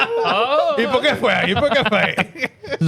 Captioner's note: laughing